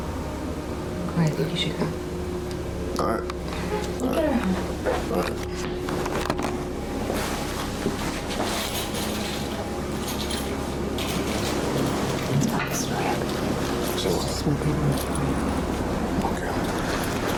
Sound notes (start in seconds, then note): 12.4 both whispering